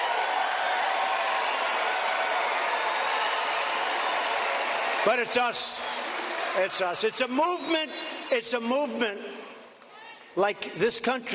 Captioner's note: applause